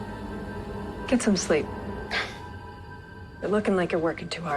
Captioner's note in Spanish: suspiros